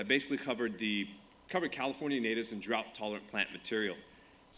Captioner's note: none